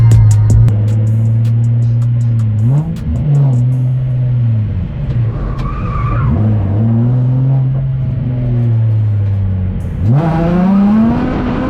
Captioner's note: car drifting noise